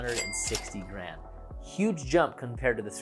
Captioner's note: cash register dings